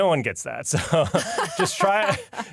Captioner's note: laughter